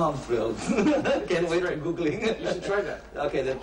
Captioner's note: laughs